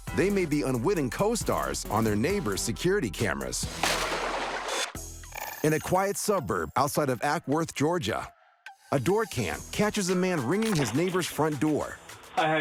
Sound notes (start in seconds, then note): 3.7 water splashing